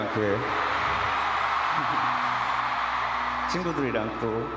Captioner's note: crowd cheering